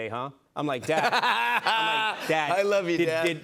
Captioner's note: laughs